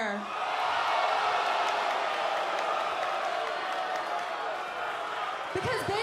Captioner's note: cheers and boos